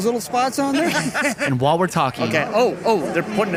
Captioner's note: laughs